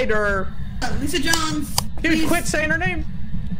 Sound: nervously

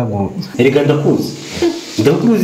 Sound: laughs

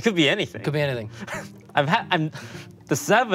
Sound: Toast chuckles

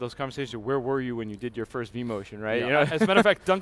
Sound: laughs

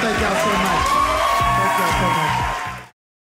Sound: audience cheering

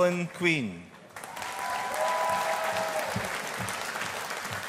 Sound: audience applauding

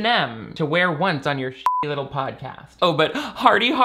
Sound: beep

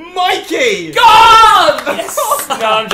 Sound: yells

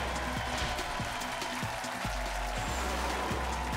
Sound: cheering

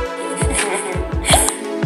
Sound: chuckling

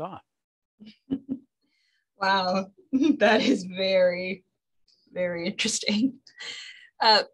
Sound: laughs

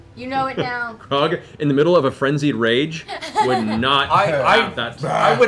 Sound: laughs

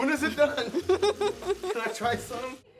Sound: giggling

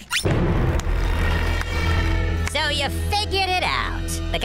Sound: clapping

